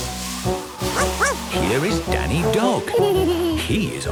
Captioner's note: barking; laughing